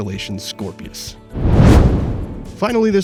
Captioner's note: whoosh